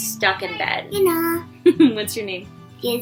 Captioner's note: laughing